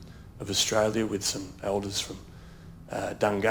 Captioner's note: speaks in foreign language